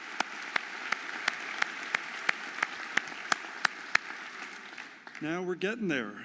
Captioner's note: audience applauding and cheering